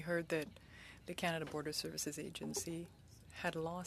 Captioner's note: speaking French